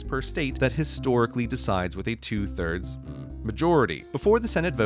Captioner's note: hmmm